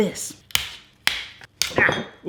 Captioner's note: snapping